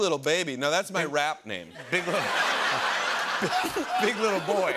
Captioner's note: laughter